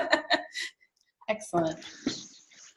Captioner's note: laughs